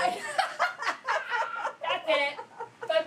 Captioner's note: laughing